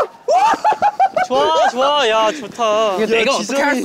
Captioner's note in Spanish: Jajaja